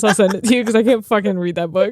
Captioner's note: laughing